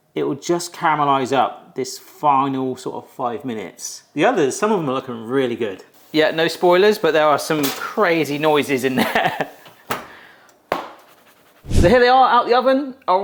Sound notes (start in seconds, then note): 11.7 oven mitts slap together